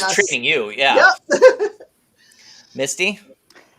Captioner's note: laughs